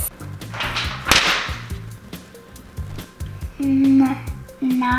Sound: paper slamming

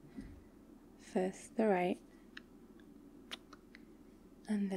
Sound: kiss

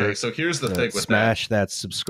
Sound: click

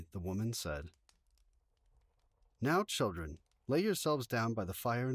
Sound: flames can be heard crackling constantly

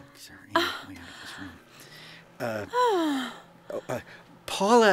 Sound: microwave cooking

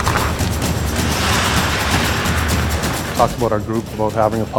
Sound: ice scraping

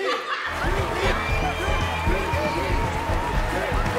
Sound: cheering

